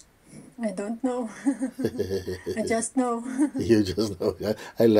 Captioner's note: laughs